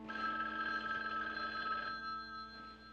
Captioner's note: Telefon çalıyor